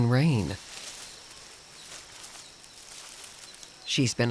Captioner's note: birds chirping; leaves rustling